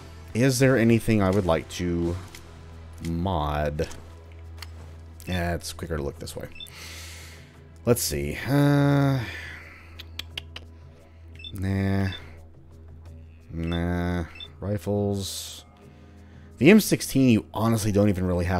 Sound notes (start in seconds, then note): 8.3 thinking sounds